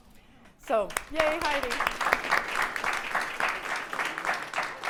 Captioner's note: audience applause